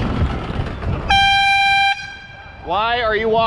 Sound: airhorn

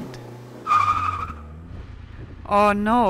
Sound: tires squealing

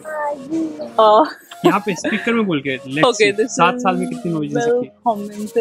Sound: nervous laugh

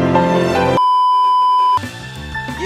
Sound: beeeeeep

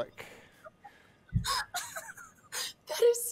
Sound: laughs

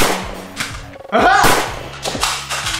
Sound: bang!

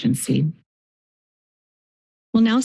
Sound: silence

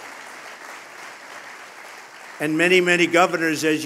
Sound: applause

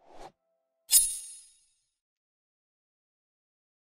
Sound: blade clinks; blade swooshing

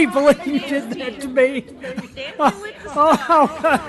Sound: laughter

